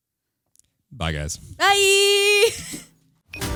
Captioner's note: laughing